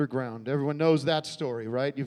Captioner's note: none